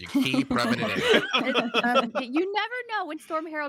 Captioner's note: laughing